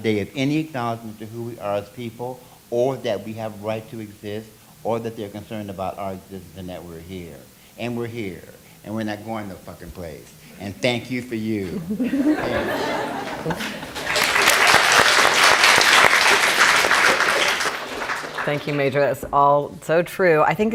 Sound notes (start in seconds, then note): 11.6 laughing; 13.1 applauding